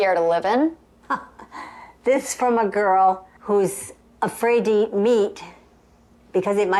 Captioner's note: chuckling